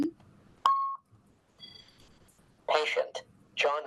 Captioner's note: beeping